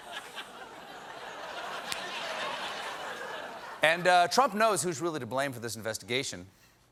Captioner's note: applause